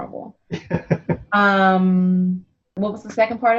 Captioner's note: laughs